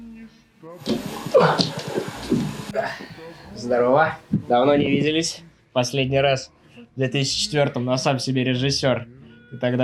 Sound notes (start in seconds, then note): 0.9 tumbling; 2.6 grunting